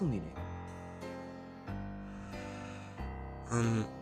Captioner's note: LEVIATHAN sighs